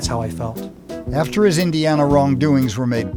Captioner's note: voiceover